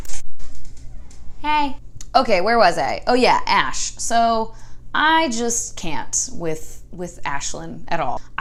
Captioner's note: door opening in background